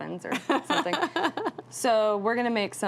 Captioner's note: laughs